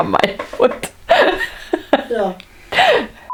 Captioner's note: laughs